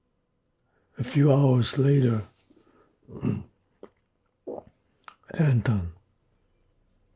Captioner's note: clears throat